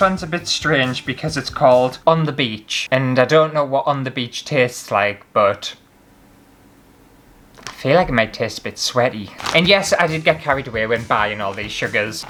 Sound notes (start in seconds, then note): none